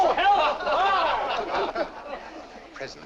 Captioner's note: laughter